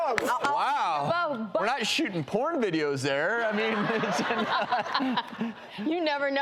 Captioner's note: laughs